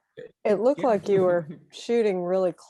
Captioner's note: laughing